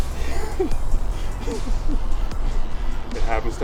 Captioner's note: laughing